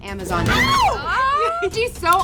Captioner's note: screaming